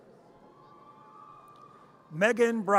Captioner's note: audience cheers